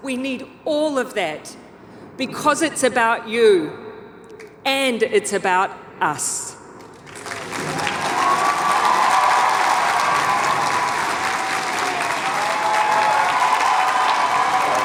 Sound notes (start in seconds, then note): 6.8 audience applauding and cheering